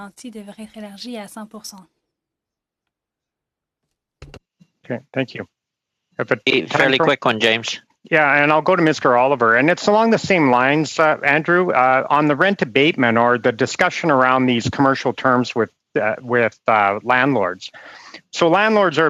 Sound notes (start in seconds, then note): 4.6 speaking French